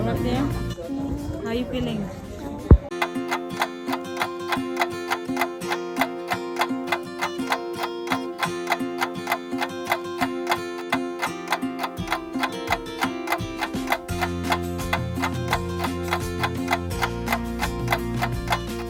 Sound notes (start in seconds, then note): 3.7 sound of clock ticking